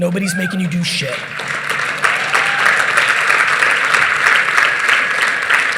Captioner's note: audience applauding